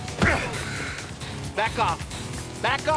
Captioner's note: groans